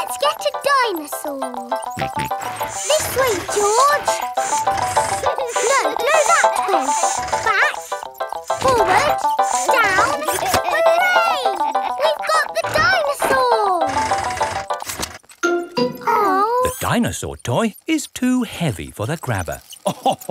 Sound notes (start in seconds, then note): 1.9 george snorts